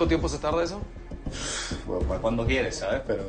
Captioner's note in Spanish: Exhalación